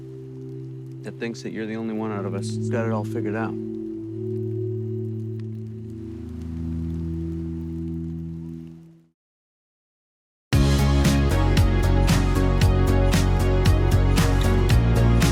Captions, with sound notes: that thinks that you're the only one out of us that's got it all figured out. (fire crackling) (upbeat music)